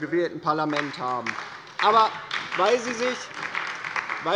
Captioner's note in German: Beifall bei der LINKEN